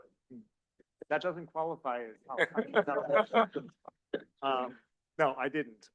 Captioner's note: laughing